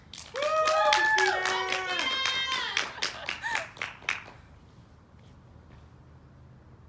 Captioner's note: audience cheers